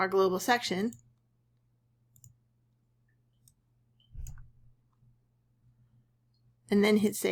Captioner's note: silence